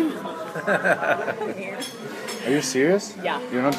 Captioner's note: laughs